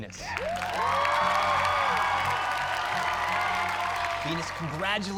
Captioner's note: cheers and applause